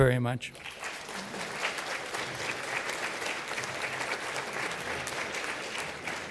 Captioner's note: applause